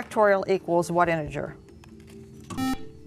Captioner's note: buzzer